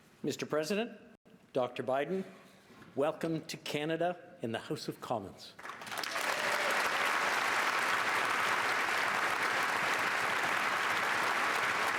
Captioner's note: cheers and Applause